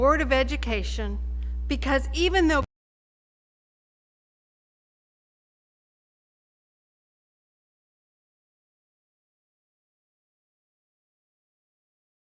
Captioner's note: sound cut out